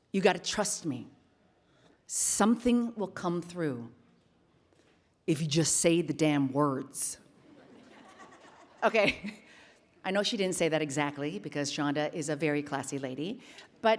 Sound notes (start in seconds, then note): 7.5 attendees laughing; 9.1 laughs